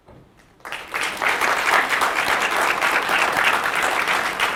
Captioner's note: clapping